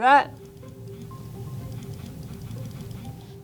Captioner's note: vibrating Noise